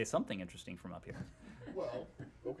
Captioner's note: laughter